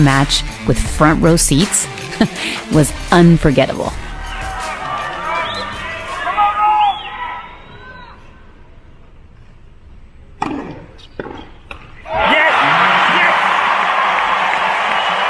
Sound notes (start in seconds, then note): 11.2 ball hitting racket; 12.0 crowd cheering